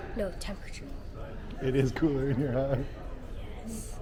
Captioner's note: relieved chuckling